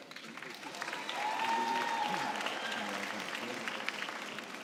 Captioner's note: cheering and applause